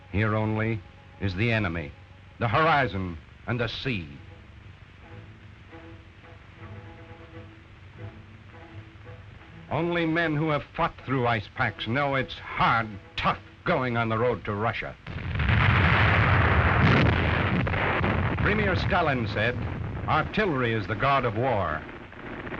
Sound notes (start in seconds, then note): 15.0 loud explosions; 22.3 gunfire; 22.3 loud explosions